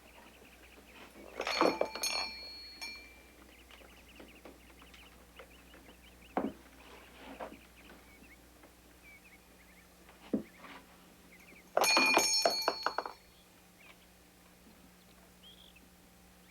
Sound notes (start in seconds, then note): 1.4 bell ringing